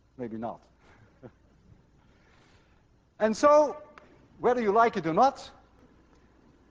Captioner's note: chuckles